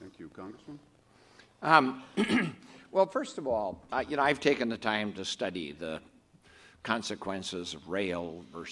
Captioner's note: clears throat